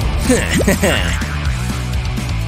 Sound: making angry sounds

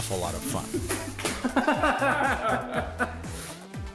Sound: laughing

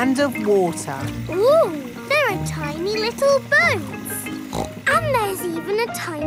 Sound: snorts

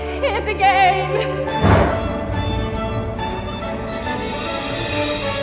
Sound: thunder rumbles; dramatic music

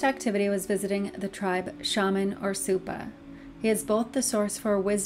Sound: speaking foreign language

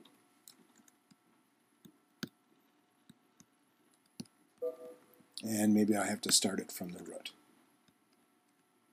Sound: error beeping sound

